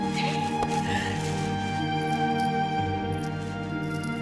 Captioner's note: crying